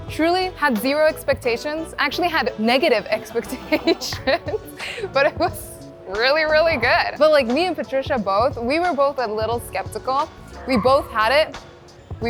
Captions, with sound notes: Truly had zero expectations, actually had negative expectations (laughing), but it was really, really good. But me and Patricia both, we were both a little skeptical. We both had it.